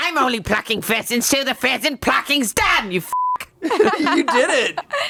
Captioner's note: beep